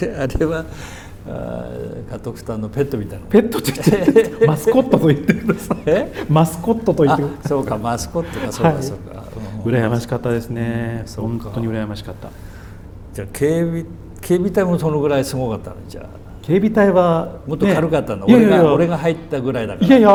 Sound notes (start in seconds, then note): 3.6 laughs